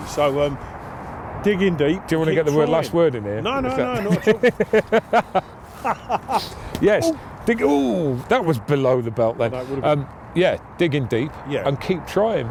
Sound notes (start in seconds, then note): 5.7 laughing